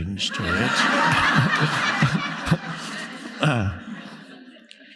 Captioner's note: audience laughing